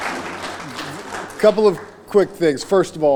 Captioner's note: applause